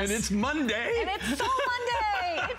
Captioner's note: laughter